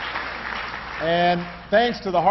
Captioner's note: applause